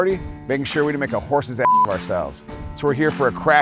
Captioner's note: beep